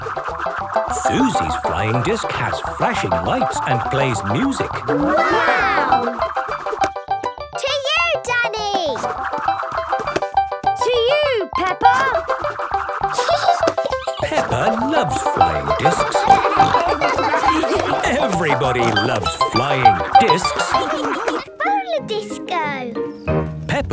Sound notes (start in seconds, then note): 13.1 giggling; 16.1 snorting and laughter; 20.1 laughter